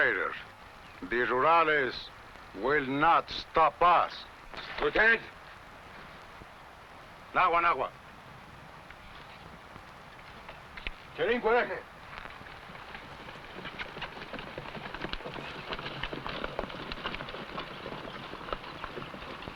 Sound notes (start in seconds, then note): 7.4 speaking foreign language; 16.0 horse hooves pattering